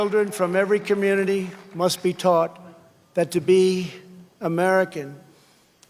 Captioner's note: applause